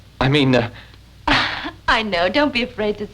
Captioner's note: giggling